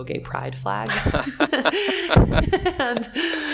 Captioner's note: laughing